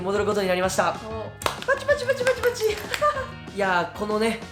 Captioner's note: clap clap clap